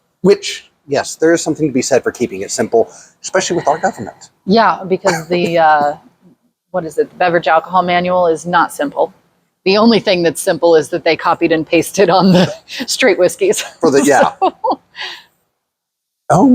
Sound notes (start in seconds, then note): 5.0 laughs; 13.8 laughs